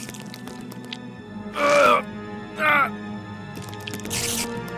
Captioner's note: grunts in struggle